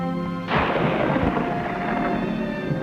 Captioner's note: thunder rumbling